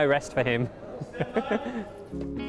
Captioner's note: laughs